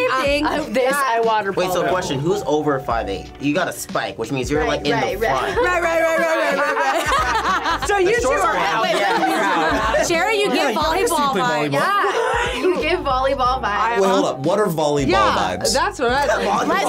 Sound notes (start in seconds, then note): 7.3 laughs